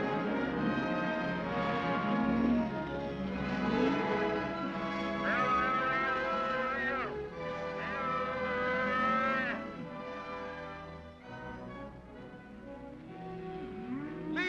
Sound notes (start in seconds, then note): 0.0 cattle moo; 0.2 soft dramatic music; 5.2 cattle cries out; 9.7 soft music